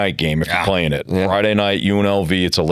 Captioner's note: laughing